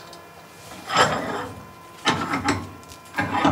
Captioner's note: metal Scraping